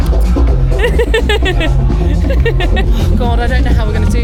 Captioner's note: giggles